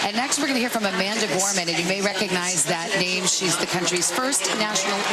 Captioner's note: cheers and applause